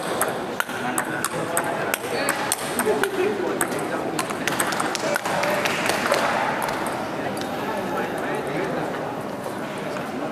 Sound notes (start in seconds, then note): 1.7 applause